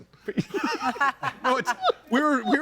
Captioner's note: all laughing